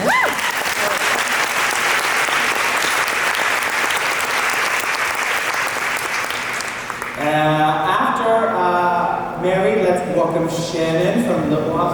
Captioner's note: applause